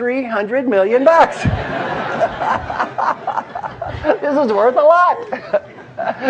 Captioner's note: laugh